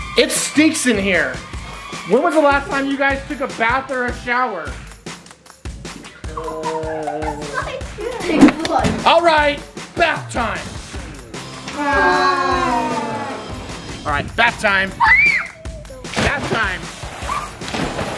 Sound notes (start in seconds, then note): 11.6 moaning